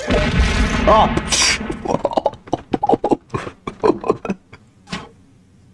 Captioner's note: laughs to myself